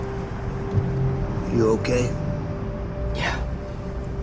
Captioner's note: none